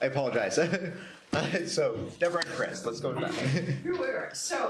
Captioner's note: chuckles